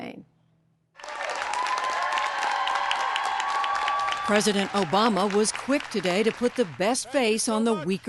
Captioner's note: cheering and applause